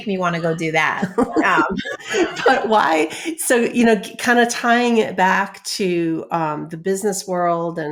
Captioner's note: laughs